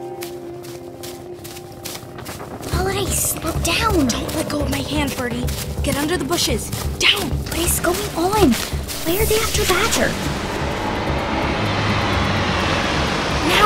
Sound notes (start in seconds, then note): 0.3 quickened footsteps, distant whirring; 3.4 whispering; 9.2 car whizzes past